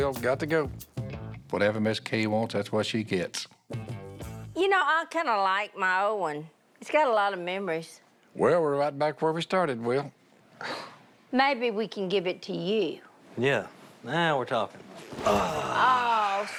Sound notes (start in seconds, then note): 9.9 sighs